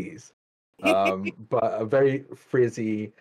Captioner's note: laughs